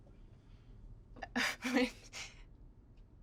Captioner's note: laughs